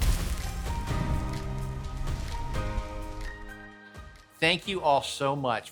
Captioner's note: fire crackling; inspirational music